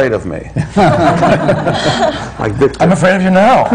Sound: laughter

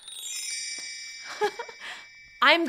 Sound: laughs

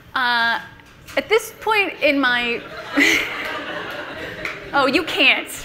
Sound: everyone laughs

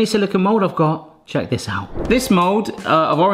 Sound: screen wipe whooshes

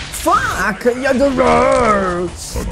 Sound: mad cave man sounds

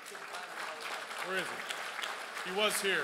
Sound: crowd applauds

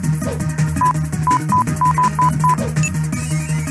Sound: more beeping

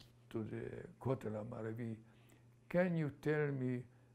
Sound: non-english

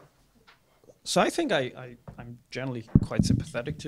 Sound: voiceover

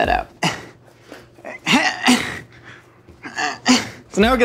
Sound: groans loudly

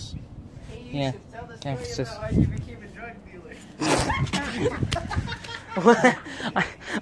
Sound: everyone starts laughing

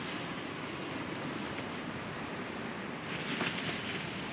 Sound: the sound of the waves grows softer

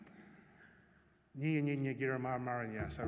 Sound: non-english speech

